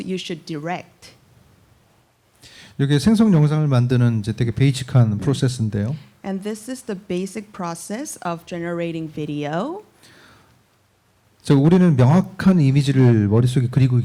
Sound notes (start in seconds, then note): 2.7 speaking korean; 11.2 speaking korean